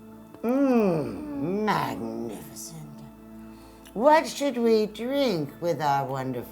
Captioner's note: chewing